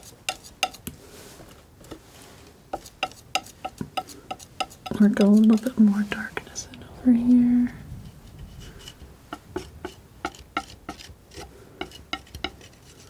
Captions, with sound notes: [tapping] I'm gonna go a little bit more darkness over here. [tapping]